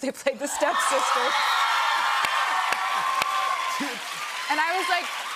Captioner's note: cheers and applause